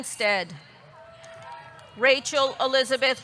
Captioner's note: audience clapping; audience cheering